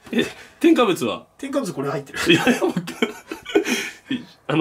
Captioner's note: laughter